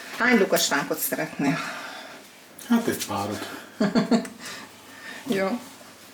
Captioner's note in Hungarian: nevetés